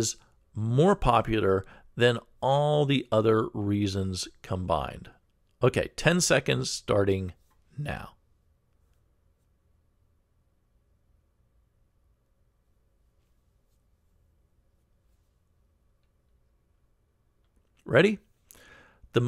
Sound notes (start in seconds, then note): 8.2 pause